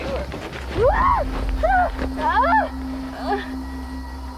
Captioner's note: Maggie screaming